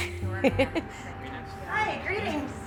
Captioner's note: laughing